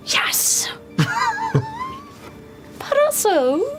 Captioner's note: laughter